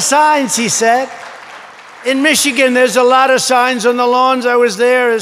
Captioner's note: applause